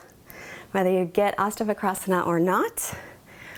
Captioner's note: speaks in foreign language